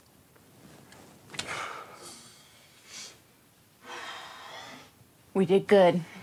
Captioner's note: Lance kisses and exhales